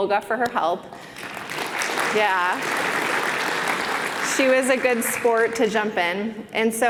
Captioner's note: applause